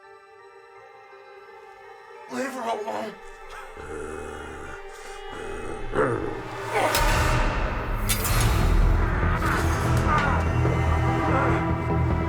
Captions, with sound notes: (whimsical music) - Leave her alone. (Meathook Man growling) (Jordyn grunting) (intense music) (dramatic music)